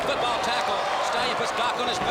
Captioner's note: crowd chatter